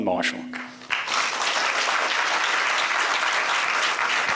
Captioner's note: applause